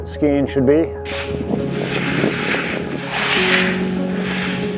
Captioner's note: skis scraping